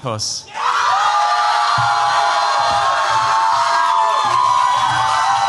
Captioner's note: cheers, applause